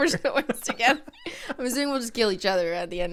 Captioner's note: both laugh